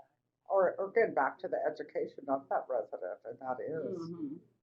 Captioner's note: voiceover